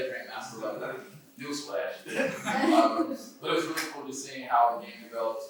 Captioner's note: laughter